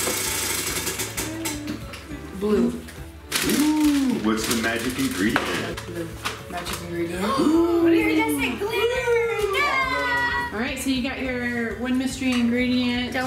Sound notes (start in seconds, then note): 0.0 wheel spinning; 7.4 gasping